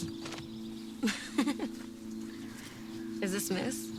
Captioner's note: Cassie laughing